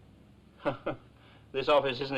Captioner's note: nervously chuckling